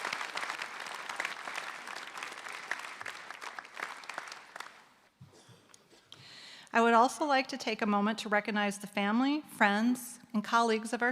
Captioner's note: applause